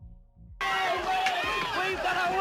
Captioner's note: movie crowd shouting